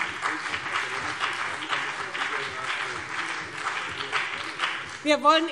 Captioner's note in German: Beifall BÜNDNIS 90/DIE GRÜNEN und CDU